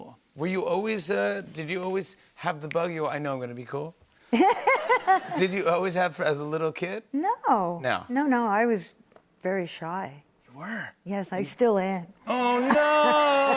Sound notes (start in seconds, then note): 4.3 laughter; 12.6 laughter